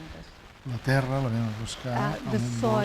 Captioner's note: speaking spanish